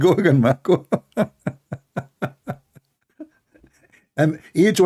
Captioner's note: Ketawa